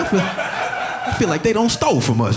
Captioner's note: audience laughing